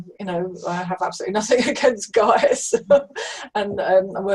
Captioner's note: laughing